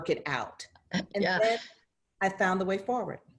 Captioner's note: laughter